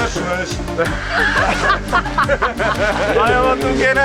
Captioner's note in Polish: śmiech